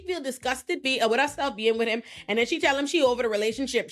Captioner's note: none